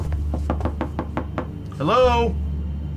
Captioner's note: door knocking